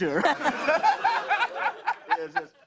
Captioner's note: laughter